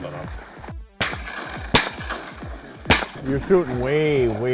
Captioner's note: gun fires